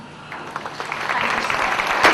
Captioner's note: audience applause